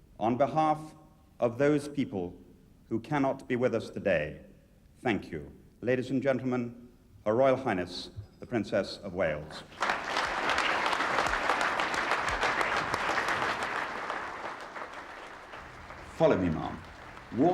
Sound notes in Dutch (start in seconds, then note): 9.7 publiek applaudisseert